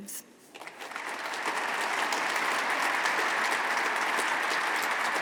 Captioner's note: audience applauding